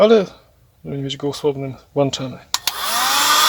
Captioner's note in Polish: słychać silnik suszarki